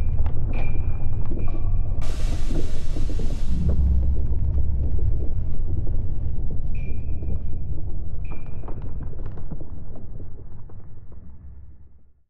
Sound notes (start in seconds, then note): 5.0 distant bombs booming and gunfire